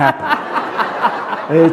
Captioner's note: laughter